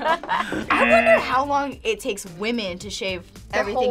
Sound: both laugh; buzzer

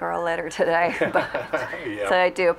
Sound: both chuckling

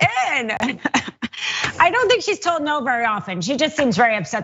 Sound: laugh

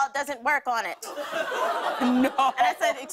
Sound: laughter

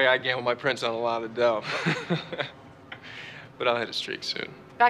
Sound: chuckles

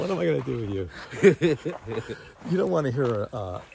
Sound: Ron giggling

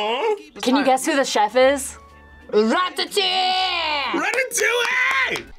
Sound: in "French" accent

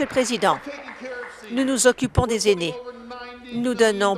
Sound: applause

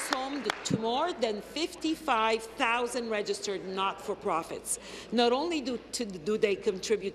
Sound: applause

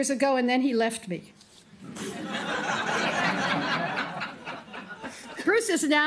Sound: laughter

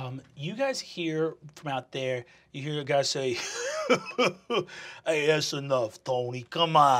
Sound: chuckling

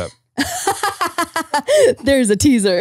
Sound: laughing

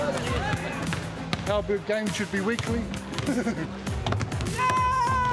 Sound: chuckles

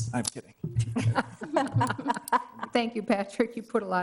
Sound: laughing

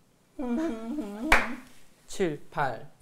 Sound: clap

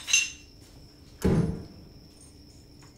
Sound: door shutting

